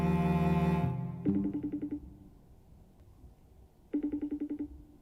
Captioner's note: phone ringing